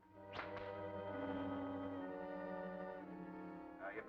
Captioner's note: whip cracking